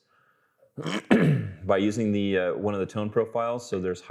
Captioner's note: clearing throat